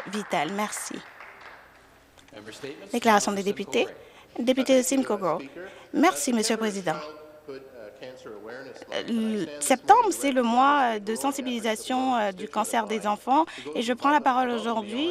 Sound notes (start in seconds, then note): 0.0 some Applause